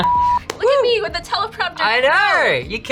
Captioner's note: beep; laughs